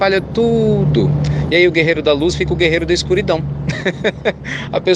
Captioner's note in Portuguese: Risos